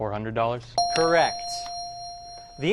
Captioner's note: ding